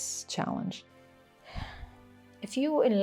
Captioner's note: sigh